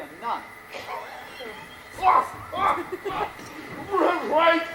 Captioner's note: Dogberry laughs